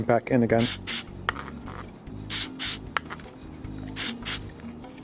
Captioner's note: spray hissing